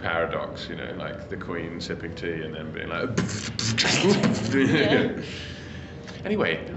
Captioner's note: beat-boxing